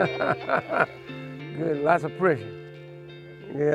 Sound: laughs

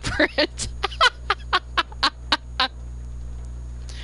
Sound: laughter

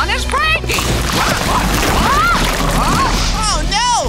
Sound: rock crumbling

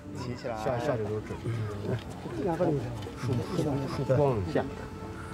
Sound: archeologists chattering

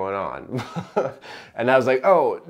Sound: chuckling

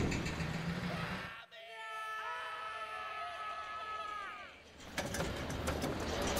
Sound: screaming

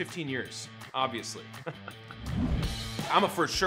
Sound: laughs; rock music

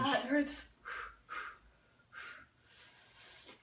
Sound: blowing

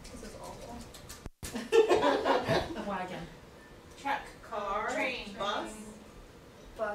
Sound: audience laughter

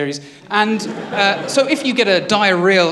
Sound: laughter

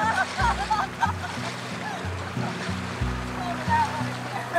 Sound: laughing

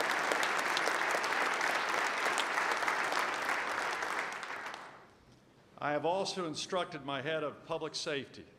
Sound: applause

